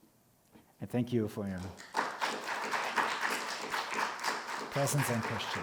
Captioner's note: audience applauding